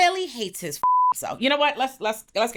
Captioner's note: beep